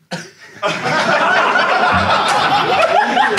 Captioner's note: Sidemen laugh; audience laughs